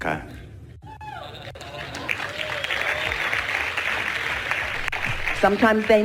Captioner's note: audience cheering